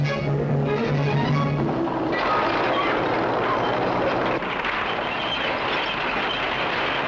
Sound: bulldozer roars and clatters

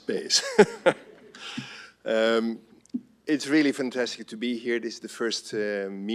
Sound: laughs

